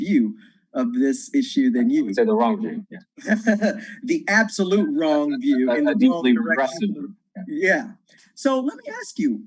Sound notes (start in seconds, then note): 4.6 laughs